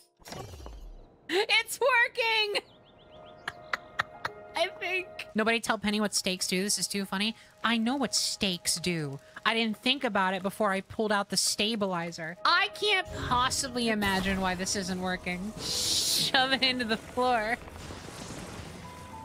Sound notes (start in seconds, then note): 3.4 laughter; 15.5 laughing